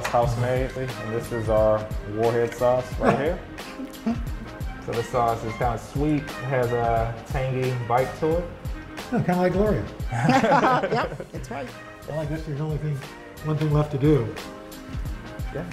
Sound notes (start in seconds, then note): 10.1 laughter